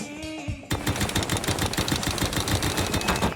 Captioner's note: jackhammering